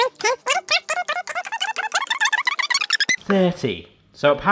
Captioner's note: fast forward squeaking